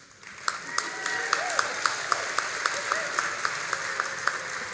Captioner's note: all applauding